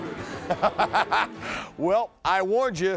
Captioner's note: laughing